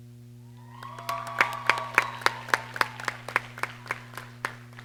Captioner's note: applause and cheering